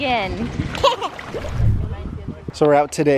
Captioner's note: chuckles